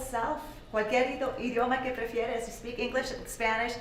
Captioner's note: speaking Spanish